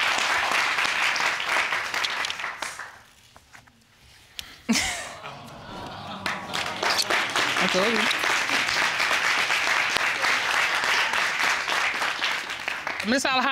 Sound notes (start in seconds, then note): 4.6 chuckles; 6.7 applause